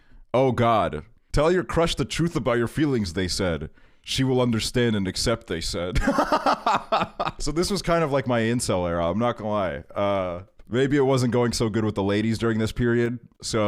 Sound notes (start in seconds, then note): 6.0 laughs